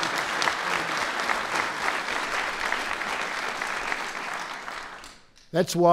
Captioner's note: applause